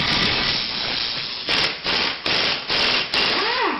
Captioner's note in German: Bohrgeräusche